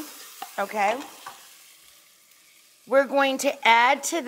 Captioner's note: onions sizzling